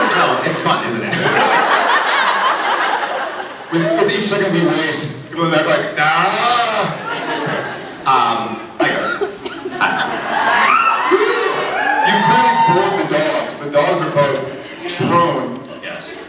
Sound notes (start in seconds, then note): 0.0 laughs; 9.8 scattered cheers